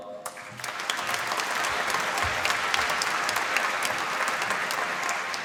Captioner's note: applause